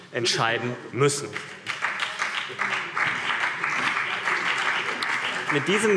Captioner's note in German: Beifall CDU und BÜNDNIS 90/DIE GRÜNEN